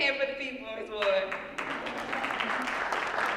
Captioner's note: applause